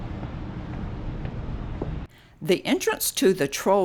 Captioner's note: footsteps pattering